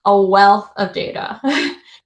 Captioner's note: chuckles